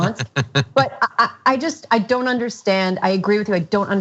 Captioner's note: laugh